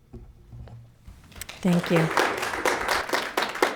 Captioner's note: audience clapping